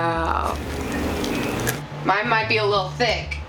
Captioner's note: cracker crunching